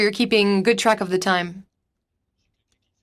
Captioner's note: speaking French